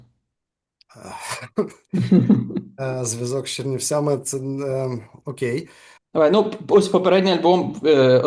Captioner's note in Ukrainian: сміється